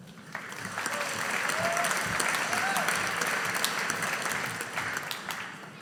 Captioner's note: audience applauding